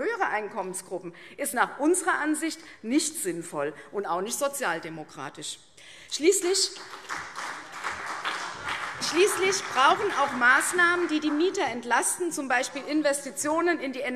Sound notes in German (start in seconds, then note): 6.8 Beifall CDU und BÜNDNIS 90/DIE GRÜNEN - Zurufe SPD